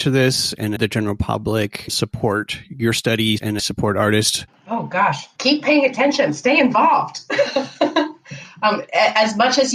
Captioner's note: laughter